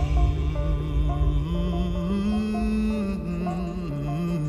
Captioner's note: singer humming